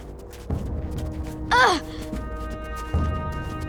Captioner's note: grunting